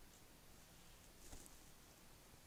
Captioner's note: kākāpō footstep